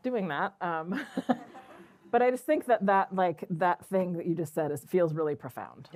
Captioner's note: laughs